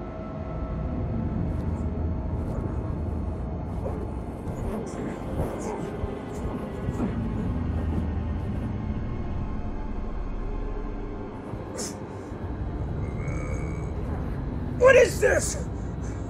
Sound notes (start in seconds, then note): 3.7 struggling; 4.5 grunting